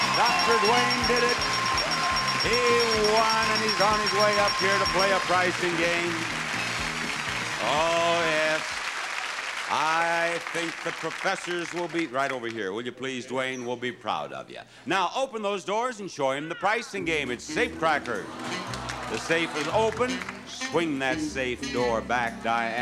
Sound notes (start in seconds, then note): 18.9 audience exclaiming